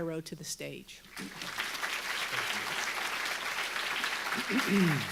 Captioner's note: audience applauding